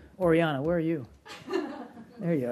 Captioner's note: laughter